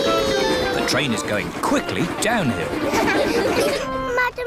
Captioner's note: laughter